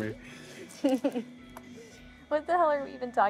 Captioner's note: Keely chuckles